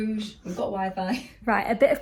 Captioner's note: laughs